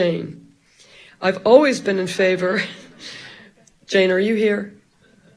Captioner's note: audience laughing; all laughing